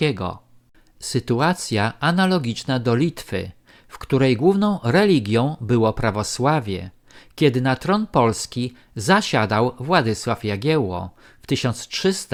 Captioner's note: Lithuanian